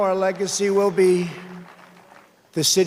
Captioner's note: cheers and applause